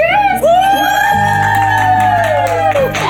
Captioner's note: cheering